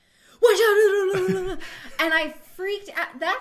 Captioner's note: laughs